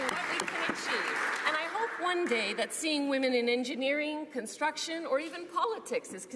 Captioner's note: applause